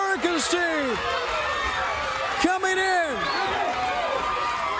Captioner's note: crowd cheering